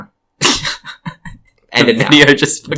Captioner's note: laughs